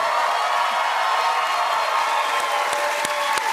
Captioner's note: cheers and applause